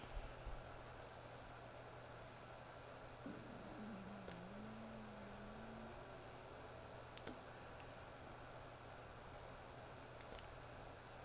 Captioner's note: crying